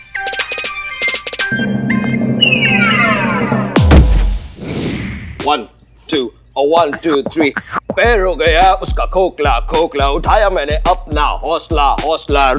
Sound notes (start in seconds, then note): 3.8 Thump